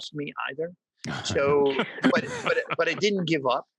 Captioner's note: all laugh